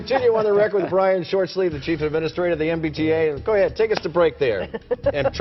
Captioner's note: laughter